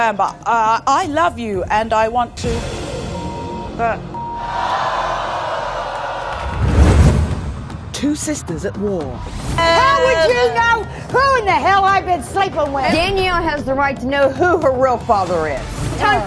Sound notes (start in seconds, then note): 3.1 beeps; 4.2 audience boos